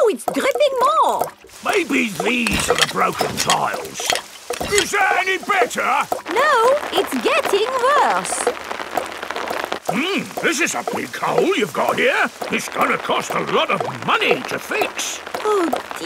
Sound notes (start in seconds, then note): none